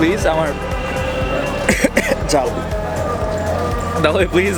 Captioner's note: coughs